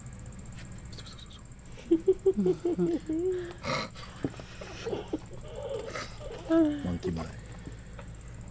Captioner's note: imitates monkey sounds